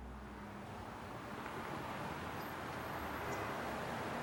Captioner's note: traffic rumbling